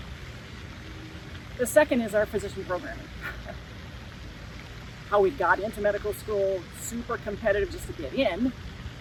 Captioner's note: chuckles